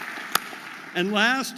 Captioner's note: audience applauding